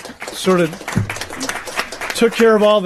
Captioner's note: applause